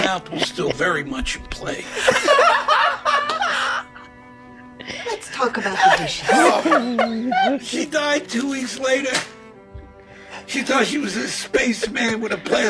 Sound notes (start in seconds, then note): 2.4 all laughing loudly